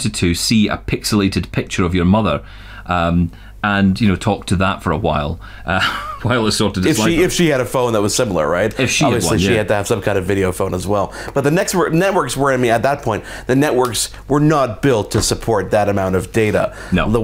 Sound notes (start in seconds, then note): 5.8 chuckles